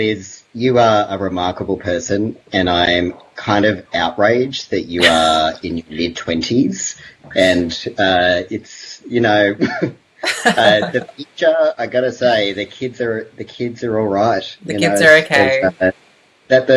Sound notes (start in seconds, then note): 10.2 laughs